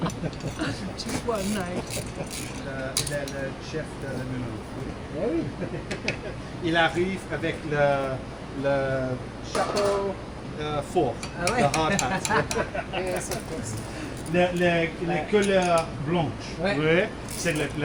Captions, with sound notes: (laughing) (speaking in foreign language) (speaking in foreign language) (laughing) (speaking in foreign language)